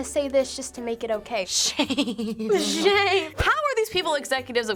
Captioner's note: laughs